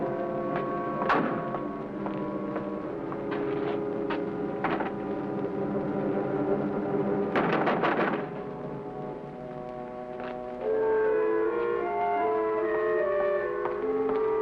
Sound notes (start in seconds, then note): 7.7 knocking on door; 10.9 suspenseful music